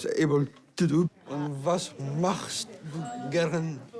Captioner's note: speaks german